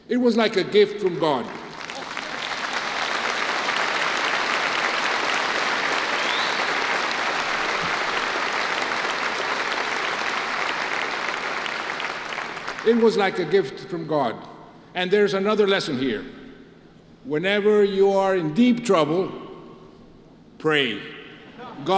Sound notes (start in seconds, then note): 1.3 applause